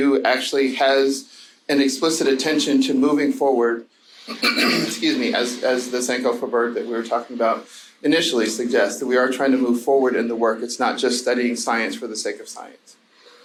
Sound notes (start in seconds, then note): 4.3 throat clearing